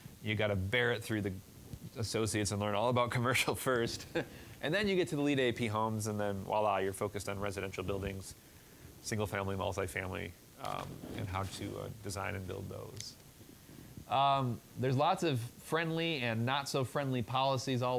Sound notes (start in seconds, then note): 3.8 chuckling